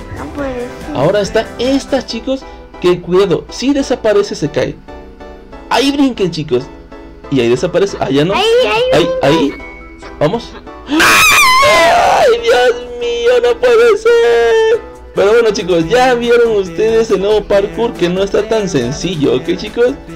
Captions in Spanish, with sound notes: Ahora estas plataformas chicos Qué cuidado, si desaparece se caen ahí Brinquen chicos Ahí ya desapareció y en la otra no Vamos [Gritos] Dios mío no puede ser Pero bueno chicos ya vieron ustedes el nuevo Parkour que no está tan sencillo ok chicos